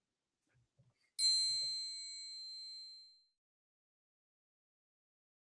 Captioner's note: bell chiming softly